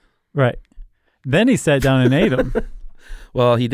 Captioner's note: laughs